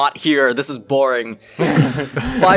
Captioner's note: chuckles